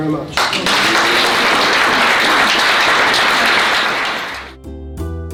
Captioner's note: clapping